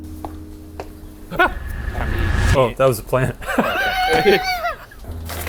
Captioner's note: laughs